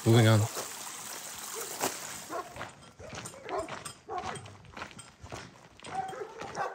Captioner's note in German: spritzendes Wasser